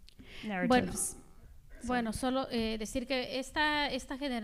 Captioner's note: speaking spanish